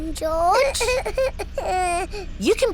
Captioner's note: splutters